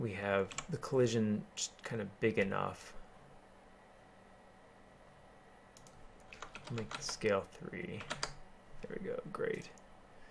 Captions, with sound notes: that we have the collision kind of big enough. [ Keyboarding ] Make this scale three; there we go great.